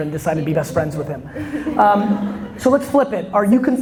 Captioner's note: audience laughter